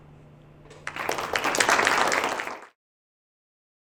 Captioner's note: applause